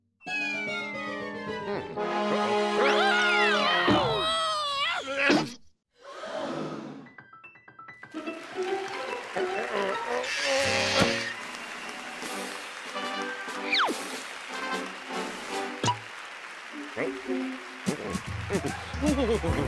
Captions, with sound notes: MM. UH-OH. AH! (audience gasps) (applause) OH. HMM? UH-OH. (nervous chuckling)